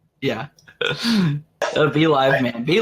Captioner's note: laughs